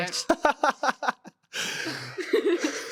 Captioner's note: laughing